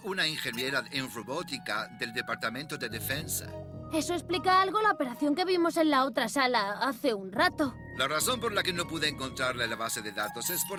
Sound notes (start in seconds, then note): none